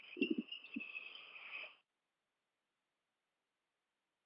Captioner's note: silence